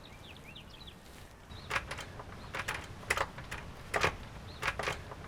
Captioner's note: clattering